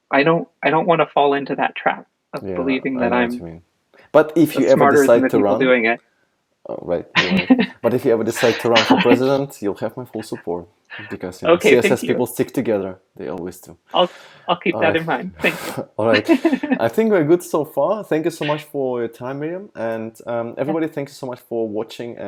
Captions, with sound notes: I don't want to fall into that trap, of believing that I'm-- - Yeah, I know what you mean. But if you ever decided-- - Smarter than the people doing it. - Oh, right, you are right. But if you ever decided to run for president, you'll have my full support. (laughter) - Okay, thank you. - Because CSS people stick together. They always do. - I'll keep that in mind, thank you. - I think we're good so far. Thank you so much for your time, Miriam. And everybody, thank you so much for watching